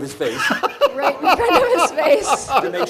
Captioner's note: laughs